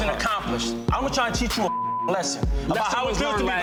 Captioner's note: beep